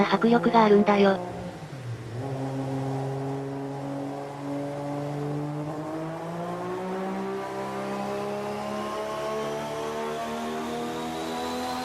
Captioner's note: GT-R engine sound